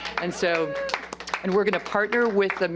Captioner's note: applause